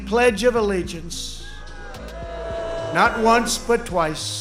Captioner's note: audience booing